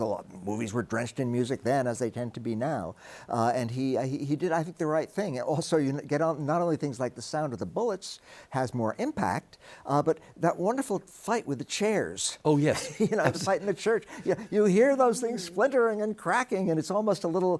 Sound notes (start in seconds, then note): 12.6 chuckles